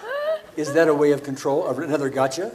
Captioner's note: laughs; audience laughs